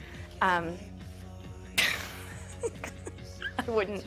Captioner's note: laughs